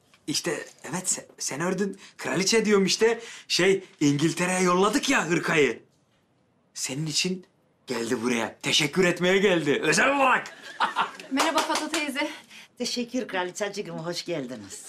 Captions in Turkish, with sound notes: İşte evet sen ördün. Kraliçe diyorum. Şey. İngiltere'ye yolladık ya hırkayı. Senin için geldi buraya. Teşekkür etmeye geldi özel olarak. (Gülme Sesi) Merhaba Fato teyze. (Alkış Sesi) Teşekkürler kraliçeciğim hoş geldiniz.